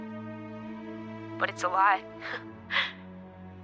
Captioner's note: chuckles